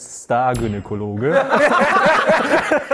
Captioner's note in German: Schallendes Gelächter